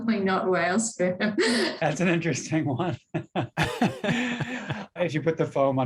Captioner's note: laughs